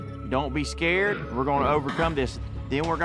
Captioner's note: neighing